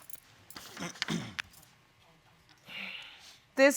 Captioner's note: clears throat